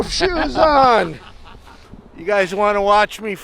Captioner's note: laughing